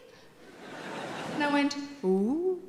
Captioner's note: audience laughing